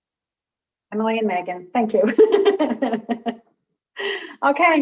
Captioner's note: laughing